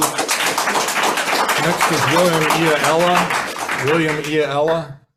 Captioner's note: audience applauds